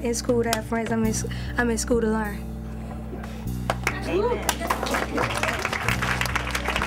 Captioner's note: clapping